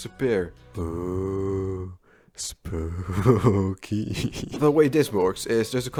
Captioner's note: laughs like an idiot